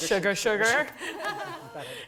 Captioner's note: laugh